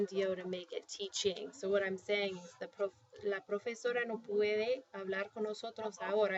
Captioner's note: speaking spanish